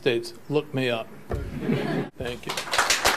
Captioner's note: laughter